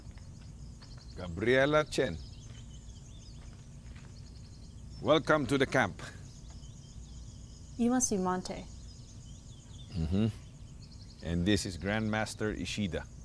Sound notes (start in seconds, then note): 9.8 Monte hums